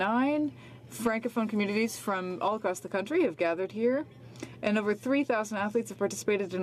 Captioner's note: speaking French